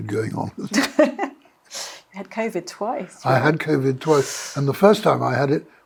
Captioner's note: laughs